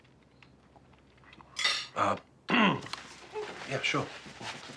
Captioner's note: fork clattering